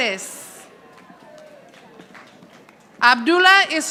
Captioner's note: audience applauding